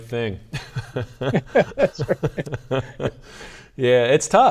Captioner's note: both chuckling